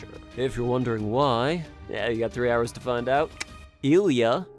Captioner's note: tongue click